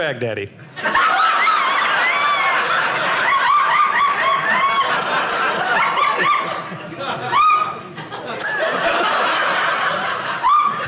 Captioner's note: audience laughing